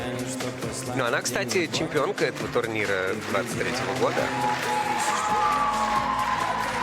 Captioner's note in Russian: ликование